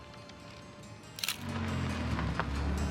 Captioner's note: gentle music; camera shutter clicking; car engine revving